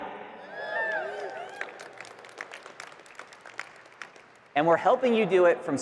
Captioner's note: marketers cheering and clapping